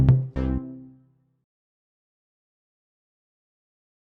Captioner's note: upbeat music; silence